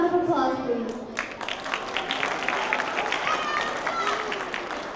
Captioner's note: applause